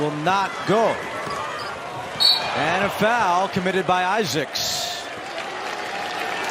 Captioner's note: whistle